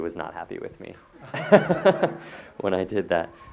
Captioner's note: audience laughter